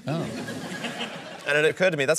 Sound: laughter

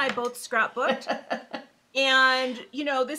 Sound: laughing

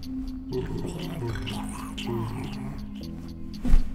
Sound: monsters drool and grumble

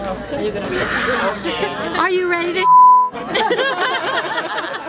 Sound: laughs

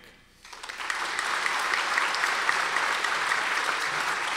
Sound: audience applause

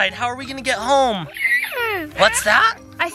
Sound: horse neighs

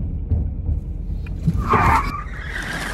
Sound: tires squeal

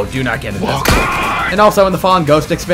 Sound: cloaker scream

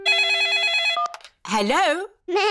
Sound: phone rings

